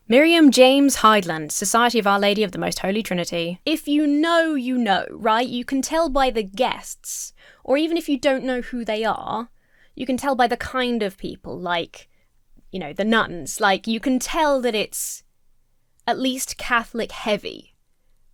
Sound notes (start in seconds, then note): none